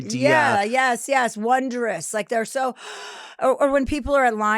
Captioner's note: gasps